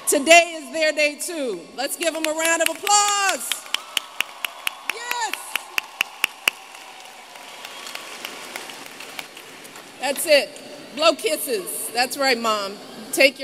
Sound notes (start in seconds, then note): 7.6 applause